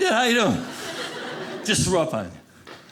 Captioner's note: audience laughing